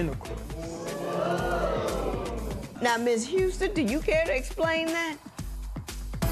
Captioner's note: spectators murmur